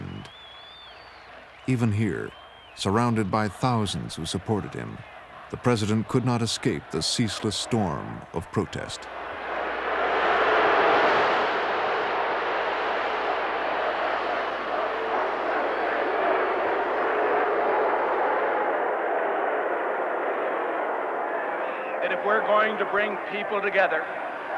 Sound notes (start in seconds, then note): 12.0 distorted shouting, chanting; 18.4 shouting and booing